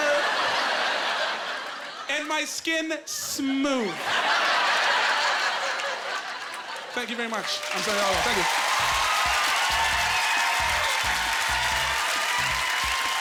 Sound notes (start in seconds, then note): 0.0 laughing; 3.9 laughing; 8.3 crowd cheering